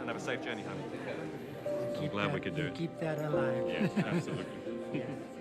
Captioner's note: talking